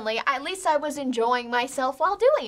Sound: none

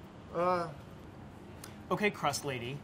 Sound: thoughtful sighing

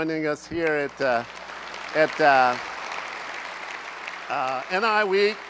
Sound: applause

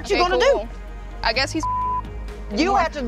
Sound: beep

